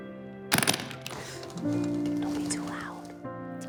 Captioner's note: suitcase unlatching